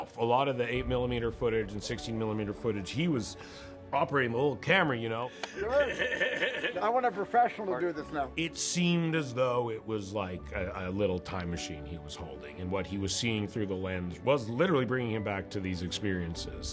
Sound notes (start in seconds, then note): 5.3 laughs